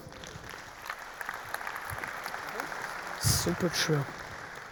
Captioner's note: audience applauding